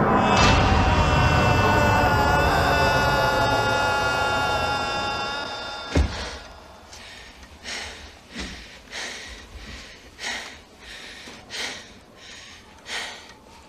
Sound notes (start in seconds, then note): 6.8 Meg pants